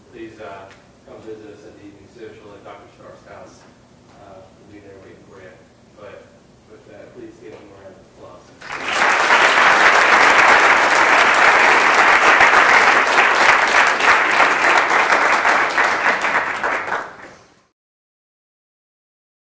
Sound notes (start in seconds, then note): 8.6 applause